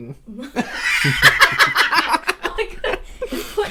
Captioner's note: wheezing Laughter